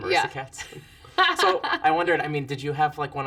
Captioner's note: laugh